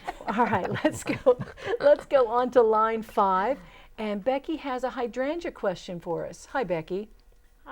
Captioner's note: laughing